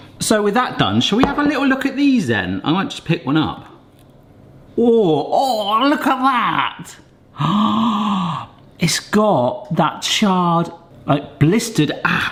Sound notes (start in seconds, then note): 7.5 gasps